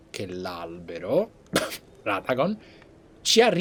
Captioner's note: cough